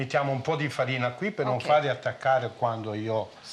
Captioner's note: speaking Italian